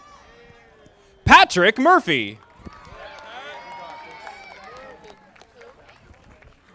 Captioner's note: audience applauding